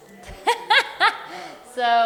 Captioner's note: laughter